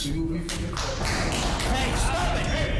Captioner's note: applause